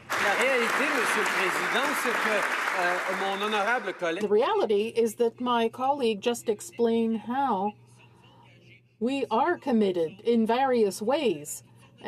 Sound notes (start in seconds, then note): 4.5 some Applause